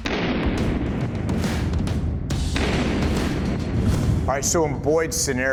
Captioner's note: gun blasting over rock music